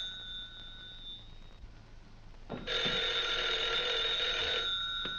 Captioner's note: telephone rings; telephone rings